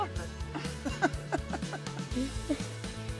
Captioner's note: laughter